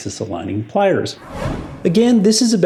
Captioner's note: whooshing